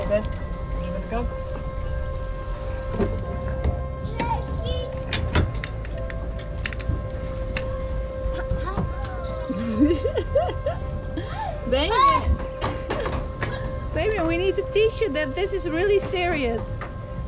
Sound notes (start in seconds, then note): 4.6 babbling; 9.4 laughs; 12.5 shouts